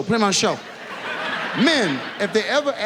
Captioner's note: audience laughs